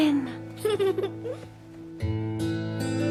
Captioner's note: giggles